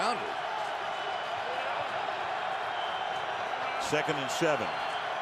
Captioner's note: crowd cheering